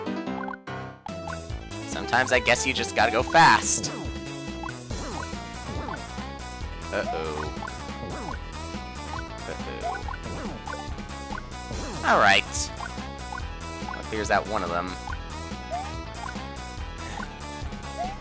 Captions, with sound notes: Sometimes, I guess you just gotta go fast. Uh oh. Uh oh... Alright. Well, it clears out one of them. (*sigh*)